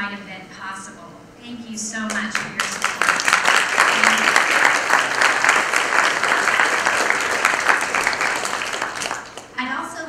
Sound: applause

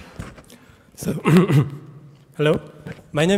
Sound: coughing

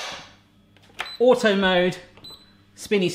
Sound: machine beeps

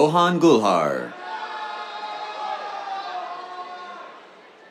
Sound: cheers

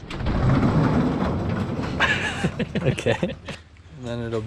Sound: laughs

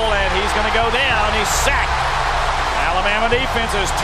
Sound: crowd cheers

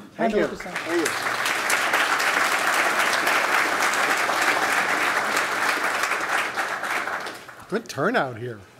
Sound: applause

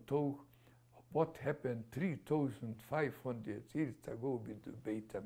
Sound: none

